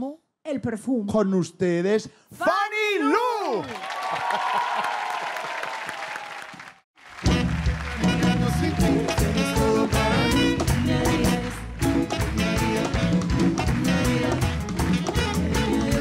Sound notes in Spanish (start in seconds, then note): 3.5 Aplausos